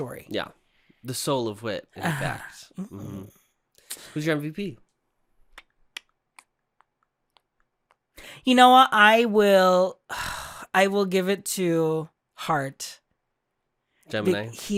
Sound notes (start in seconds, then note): 10.1 sigh